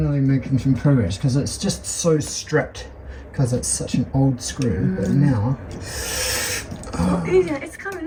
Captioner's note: exertion noise